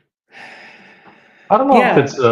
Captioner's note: sighs